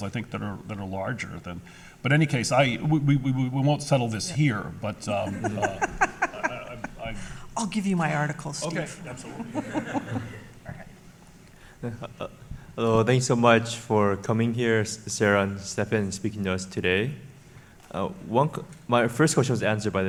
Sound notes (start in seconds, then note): 7.8 laughs; 11.8 laughs